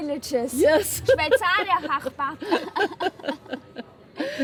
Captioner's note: laughing